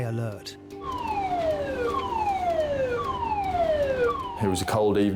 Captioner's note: siren blaring